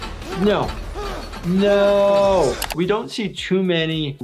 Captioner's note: person screaming